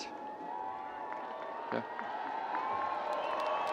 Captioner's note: students cheering and screaming; audience cheering